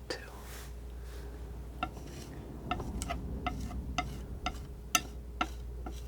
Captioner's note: tapping